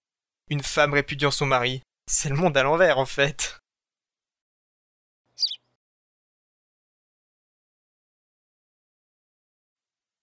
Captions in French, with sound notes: Une femme répudiant son mari, c’est le monde à l’envers, en fait ! [sarcasme] [chant d’oiseau]